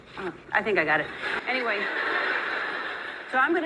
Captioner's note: audience laughing